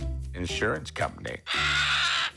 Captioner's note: bird squawks